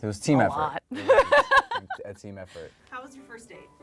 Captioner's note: laughs